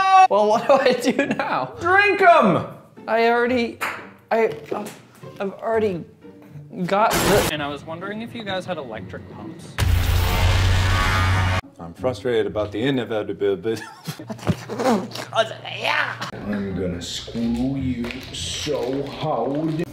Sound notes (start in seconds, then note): 6.7 loud shattering noise; 8.8 ominous sound